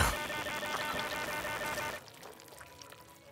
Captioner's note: squelching